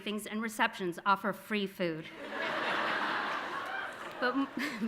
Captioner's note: audience laughing